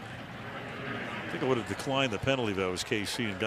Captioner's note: pa announcement